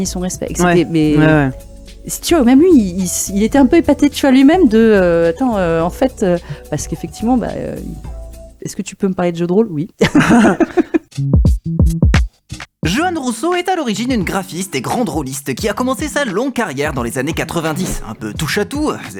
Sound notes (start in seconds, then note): 10.0 laughs